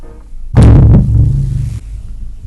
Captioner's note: boooom